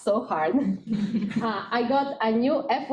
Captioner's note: laughing